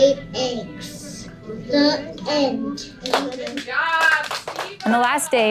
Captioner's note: applause